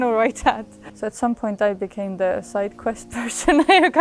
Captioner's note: laughs